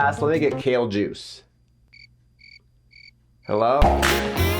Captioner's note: crickets chirping; playful music